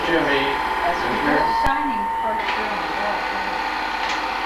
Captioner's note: tape squeel